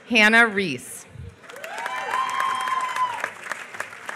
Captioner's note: applause